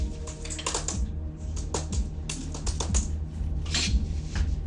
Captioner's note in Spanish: Tecleo